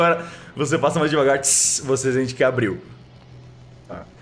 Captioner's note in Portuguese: tsss